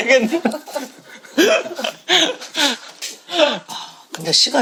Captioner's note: laughing